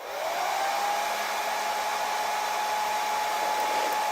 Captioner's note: Secadora zumbando